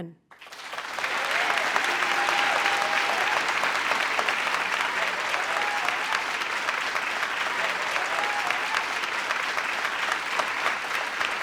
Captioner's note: audience applauding